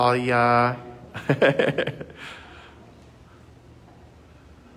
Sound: laughs

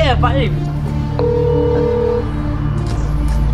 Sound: ring tone

